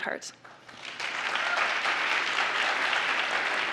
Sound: applause

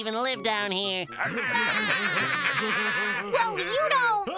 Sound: laughing

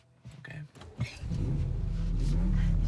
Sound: car starts

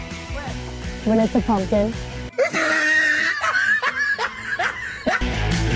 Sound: laugh

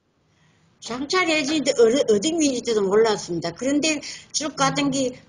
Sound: speaks in foreign language

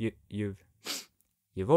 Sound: sniff

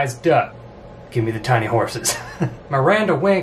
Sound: laughs

